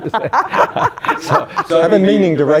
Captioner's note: laughing